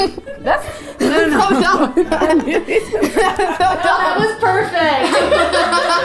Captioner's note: grunts and giggles; both chuckle